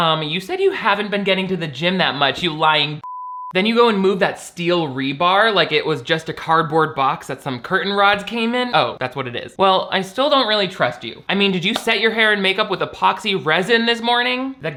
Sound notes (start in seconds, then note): 3.0 beep